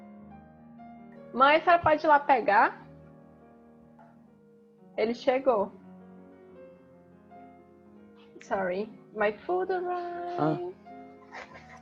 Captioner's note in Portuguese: Falando em Portugues